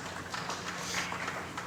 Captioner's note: applause